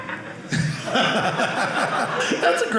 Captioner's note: audience laughing